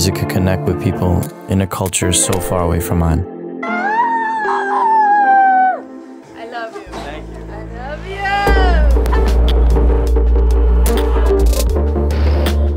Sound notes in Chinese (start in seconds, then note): 3.7 叫喊声